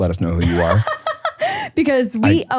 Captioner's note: person laughing